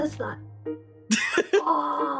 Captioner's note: laughing